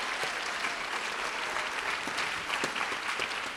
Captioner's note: applause